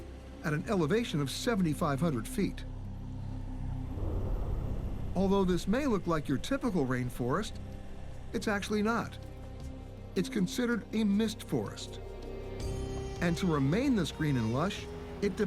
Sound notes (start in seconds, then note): none